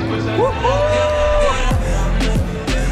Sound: cheering

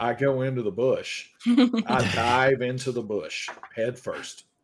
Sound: laughing

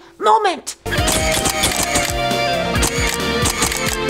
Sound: camera clicks

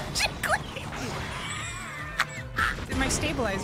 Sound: wheezing

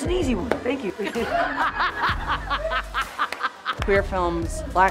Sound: laughter

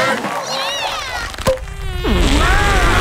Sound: all cheering; all screaming

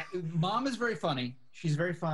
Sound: laughs

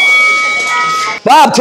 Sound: opening bell

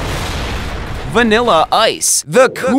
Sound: epic explosion

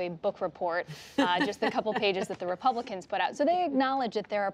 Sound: laughter

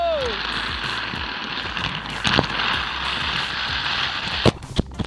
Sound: wheels spinning along track

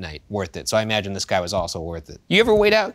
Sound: none

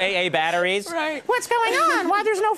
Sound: laughter

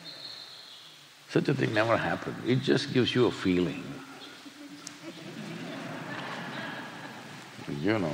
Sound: laughter

